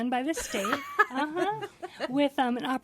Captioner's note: group laughing